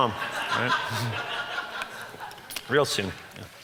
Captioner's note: audience laughs